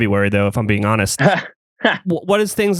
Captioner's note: laughs